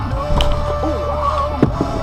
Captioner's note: bam